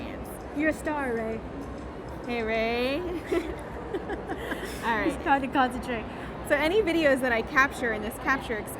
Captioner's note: laughing